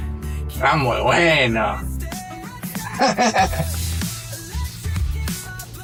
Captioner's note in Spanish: risas